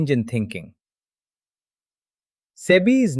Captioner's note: pause